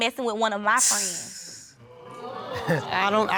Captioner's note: audience exclaim; scoffs